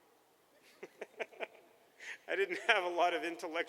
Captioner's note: laughter